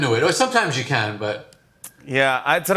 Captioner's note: none